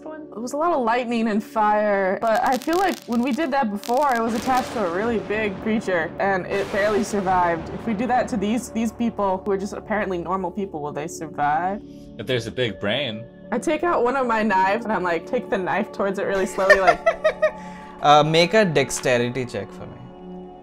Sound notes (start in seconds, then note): 16.4 laughter